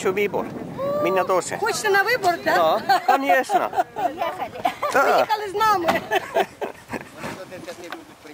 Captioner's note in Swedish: Skratt